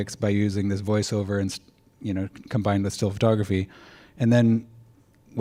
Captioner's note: none